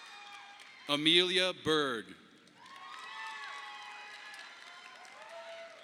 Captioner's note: audience applauding; audience applauding